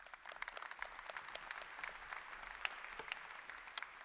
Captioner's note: applause